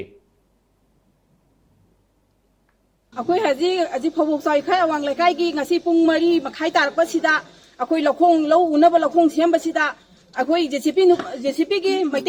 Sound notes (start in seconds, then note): 3.2 villager speaking